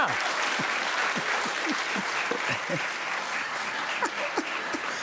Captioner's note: applause; laughing